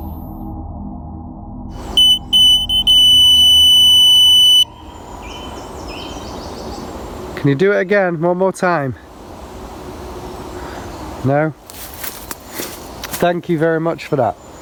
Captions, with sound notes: (suspense music) (beeping) (birds chirping) - Can you do it again one more time? No. (leaves rustling) Thank you very much for that.